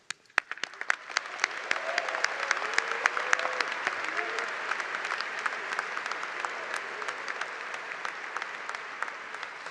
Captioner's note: applause